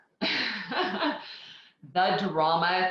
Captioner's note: laughs